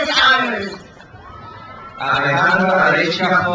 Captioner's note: crowd cheers